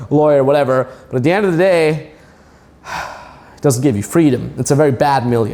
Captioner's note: sighs